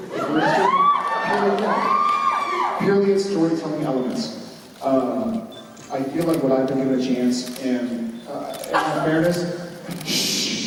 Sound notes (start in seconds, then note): 0.3 applause; 8.6 fan sneezes